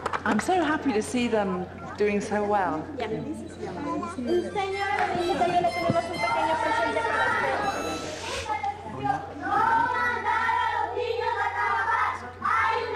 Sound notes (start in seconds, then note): 0.0 applause; 4.3 non-english speech